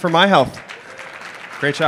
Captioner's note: applause